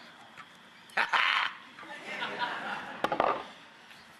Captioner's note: laughs